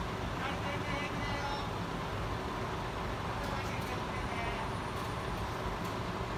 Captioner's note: bystander shouting in foreign language